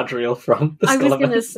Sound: laughing; laughs

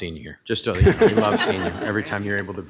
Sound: all laughing

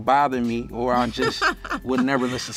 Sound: laughs

